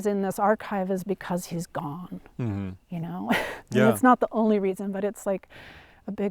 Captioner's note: laughs